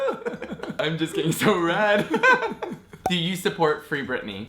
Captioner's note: laughing